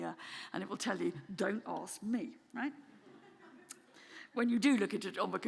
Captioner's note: audience chuckling